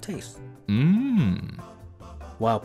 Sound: ”Mmm” sound

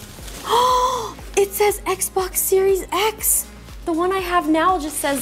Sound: gasps

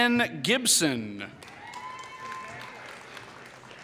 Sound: applause

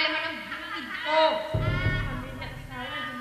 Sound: woman laughing

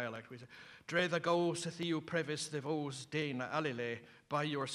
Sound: non-english speech

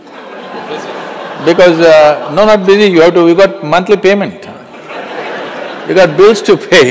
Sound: laughs; laughter

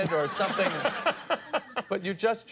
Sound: Conan and audience laugh

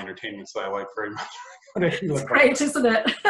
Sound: laughs

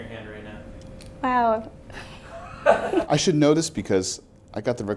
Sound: laughs

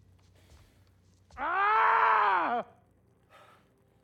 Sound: scream

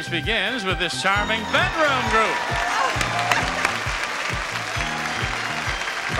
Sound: upbeat music; audience cheering and applauding

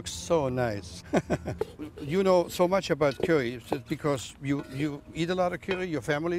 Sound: laughs

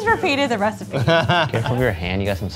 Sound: laughs

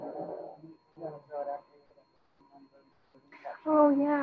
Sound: student speaking faintly

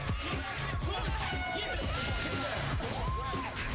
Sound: horn toots

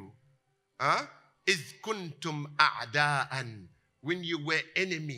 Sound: Arabic

